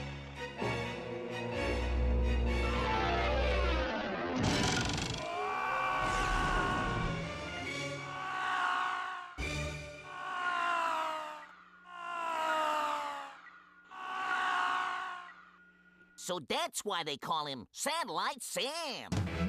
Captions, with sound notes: UH-OH. [screaming] SO THAT'S WHY THEY CALL HIM SATELLITE SAM!